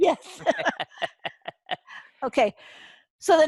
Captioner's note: laughter